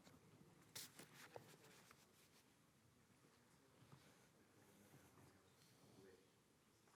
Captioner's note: none